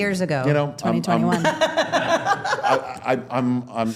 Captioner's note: laughing